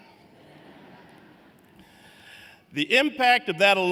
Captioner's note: laughter